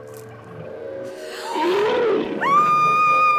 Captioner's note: gorilla roars; young woman screams